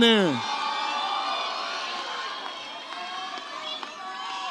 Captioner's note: audience cheers